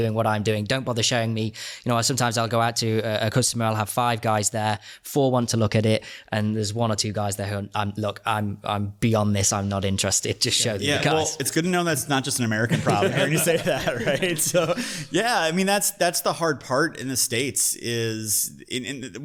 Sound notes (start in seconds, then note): 15.1 hosts laugh; 15.1 laughs